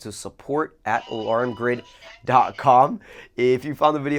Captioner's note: motion speaking